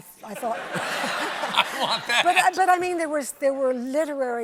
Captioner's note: laughter